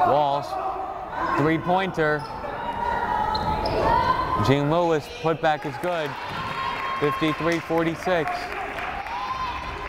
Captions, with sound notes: Walsh, three pointer, Jean-Louis put back is good. (crowd applauding) 53-46!